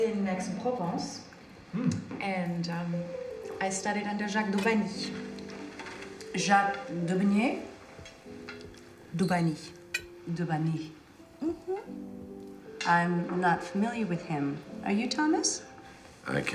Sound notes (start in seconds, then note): none